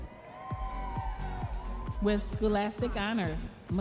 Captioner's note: audience members cheering